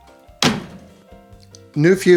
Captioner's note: snap